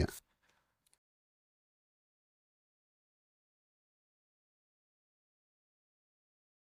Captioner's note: silence